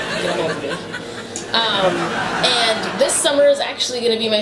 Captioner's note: laughter